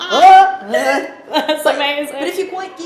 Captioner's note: laughing